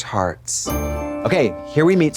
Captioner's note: bright chime